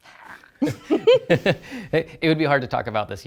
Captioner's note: laughter